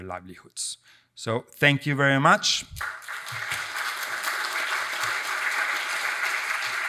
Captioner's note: audience applauds